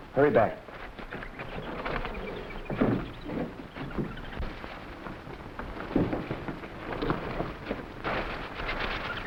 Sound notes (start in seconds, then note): 1.0 footsteps rustling; 1.0 wreck clanking